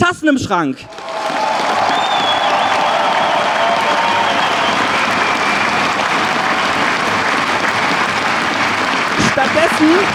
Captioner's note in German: Lautes Jubeln, Trillerpfeifen und Applaus